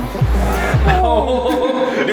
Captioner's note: giggling